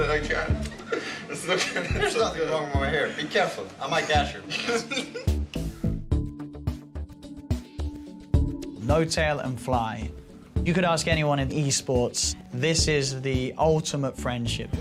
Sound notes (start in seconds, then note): 4.0 laughs; 6.9 upbeat music playing